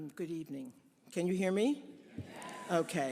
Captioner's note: audience affirming